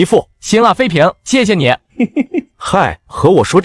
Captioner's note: chuckles